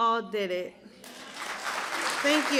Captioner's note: applause